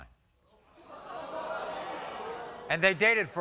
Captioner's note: audience groans